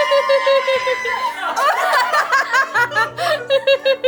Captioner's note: women laugh